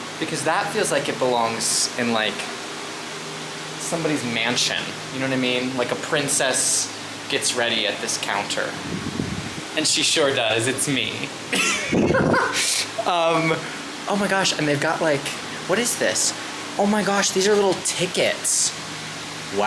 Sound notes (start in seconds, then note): 11.5 laughs